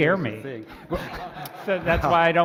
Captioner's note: laughter